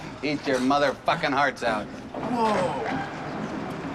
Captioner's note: laughs